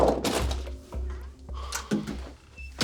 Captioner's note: none